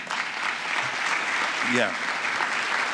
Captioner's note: applause